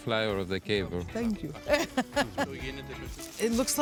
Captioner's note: laughs